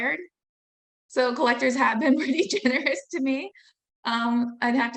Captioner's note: laughing